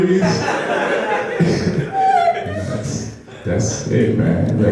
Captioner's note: laughing